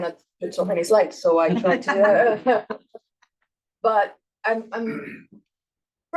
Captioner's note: attendees laughs